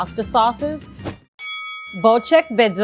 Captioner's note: bell rings